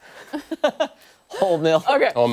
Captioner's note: laughter